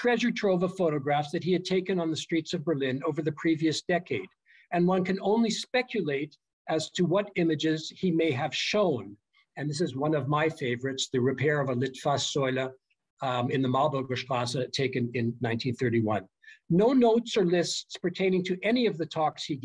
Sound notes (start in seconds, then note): 12.1 german